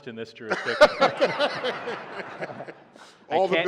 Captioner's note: laughter